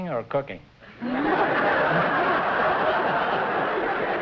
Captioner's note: laughter